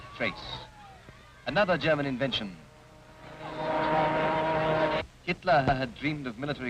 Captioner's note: people clamoring